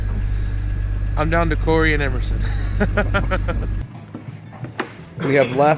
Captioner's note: laughing